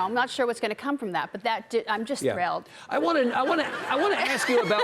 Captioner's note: audience laughing